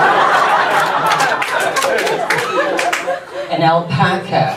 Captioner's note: audience laughs